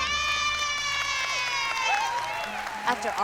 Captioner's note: cheering